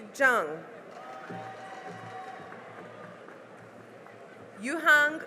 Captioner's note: cheering and applause